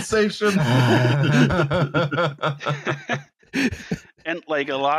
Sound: laughter

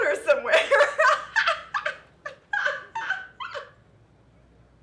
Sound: the laughing continues

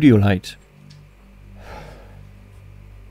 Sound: sigh

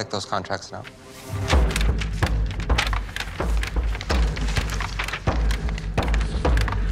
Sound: dark atmospheric music; loud thumping

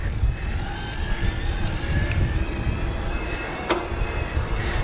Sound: bike motor whirring

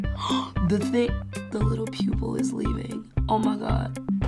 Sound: gasps

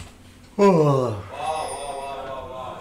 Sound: yawn

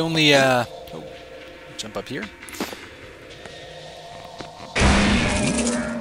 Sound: gunshot

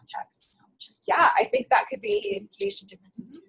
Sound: voiceover

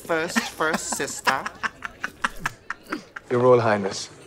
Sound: laughs

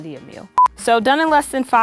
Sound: beep

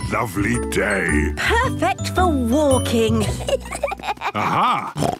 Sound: children giggling; snorts

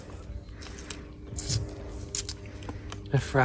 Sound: spitting Chewing Noises

